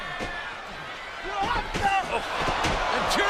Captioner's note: fighters grunt